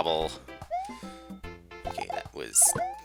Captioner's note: inhaling